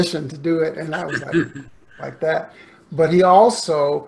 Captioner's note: laughing